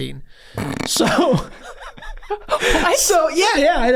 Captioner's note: gang laughing